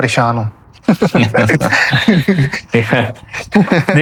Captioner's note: laughter